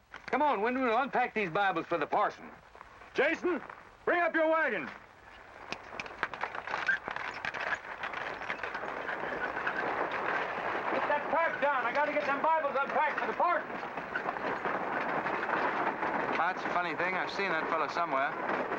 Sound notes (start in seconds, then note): 6.4 carriage rattling